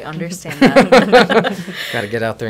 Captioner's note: laughs